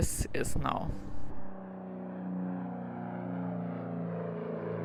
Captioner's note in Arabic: أزيز محرك الطائرة